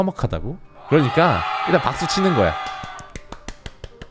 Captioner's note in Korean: 엄청난 함성!